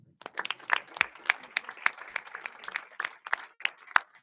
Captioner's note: audience applauding